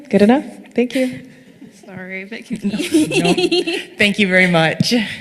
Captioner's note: laugh